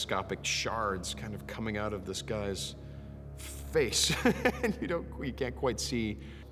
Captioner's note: laughs